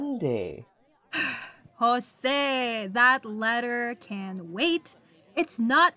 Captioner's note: sighs